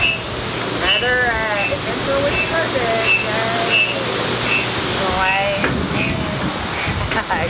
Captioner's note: pump squeaking drowns out conversation